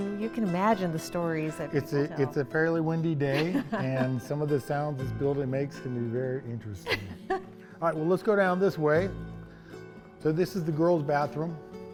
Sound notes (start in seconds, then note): 6.8 laughing